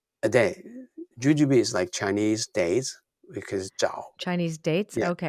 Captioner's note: speaking in Chinese